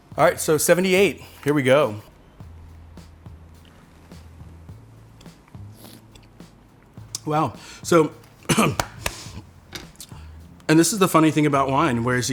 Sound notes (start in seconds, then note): 5.7 slurps; 8.4 coughs